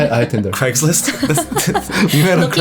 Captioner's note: laughs